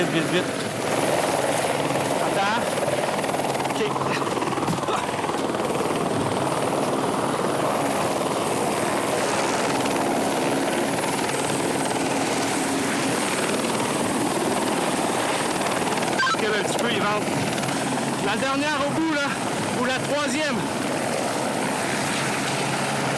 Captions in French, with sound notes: Vite, vite, vite, vite, vite. Attends... OK! (bruit de l'hélicoptère) - Recule un petit peu, il vente. La dernière au bout, là! Ou la troisième.